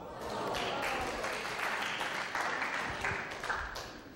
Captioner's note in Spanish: aplausos